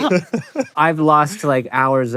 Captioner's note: laughing